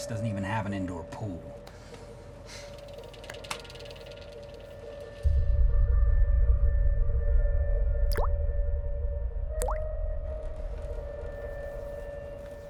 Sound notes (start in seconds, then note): 6.3 faucet dripping; 9.3 dramatic music plays